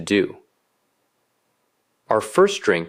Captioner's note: pause